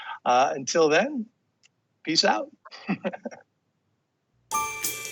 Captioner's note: chuckles; upbeat music